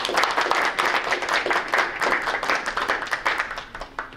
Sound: group applauding

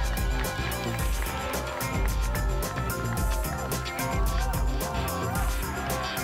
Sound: audience chanting "ora!"

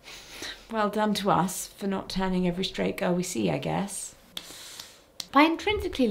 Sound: clap

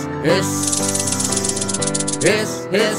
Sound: snake hissing

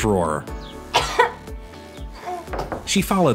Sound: coughs

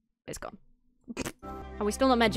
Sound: chortles

